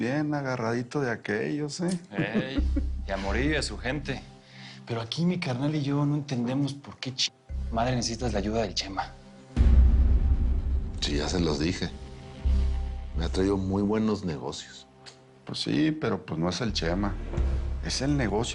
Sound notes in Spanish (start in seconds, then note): 2.0 Risas